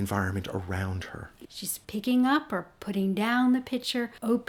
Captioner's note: voiceover